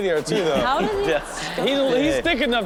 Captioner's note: audience laughs